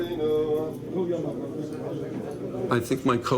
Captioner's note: men chattering in foreign language